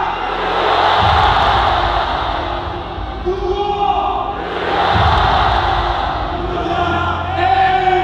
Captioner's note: the crowd shouts one name in unison